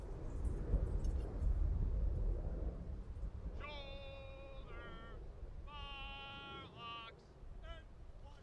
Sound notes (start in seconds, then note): 0.9 soldiers shouting commands